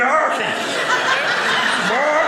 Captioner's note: audience laughing